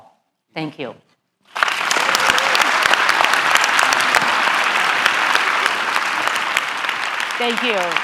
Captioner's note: applaud